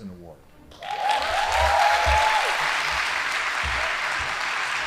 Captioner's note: audience applauding